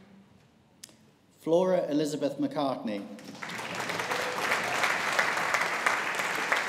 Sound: audience applauding

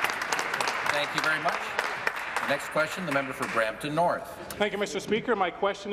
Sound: applause

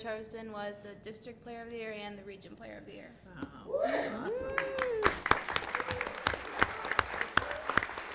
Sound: applause

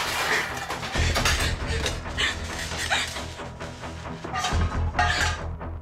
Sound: tense sinister music; Jenelle grunting

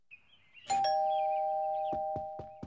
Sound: rings doorbell

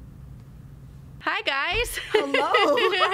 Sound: laughs

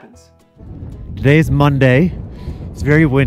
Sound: wind howling

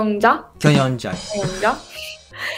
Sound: Korean

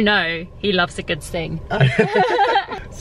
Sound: laughter

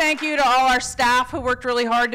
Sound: applause

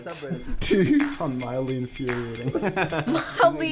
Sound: laughs

